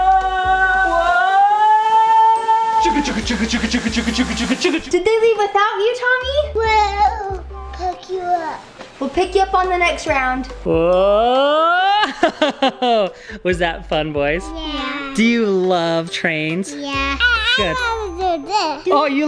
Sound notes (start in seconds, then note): 0.3 yelling; 1.8 imitates train; 11.8 laughs